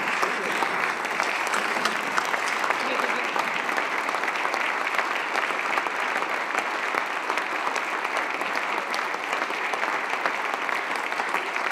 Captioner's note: applause